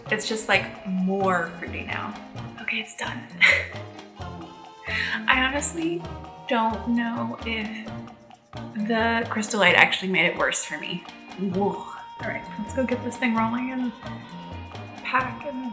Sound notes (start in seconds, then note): 3.3 chuckling; 11.6 scoffing